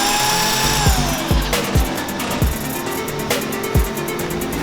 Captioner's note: grinding